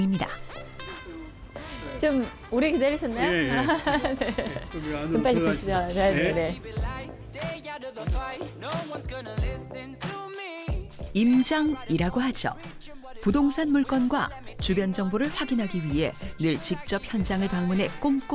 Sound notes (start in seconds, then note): 5.8 voiceover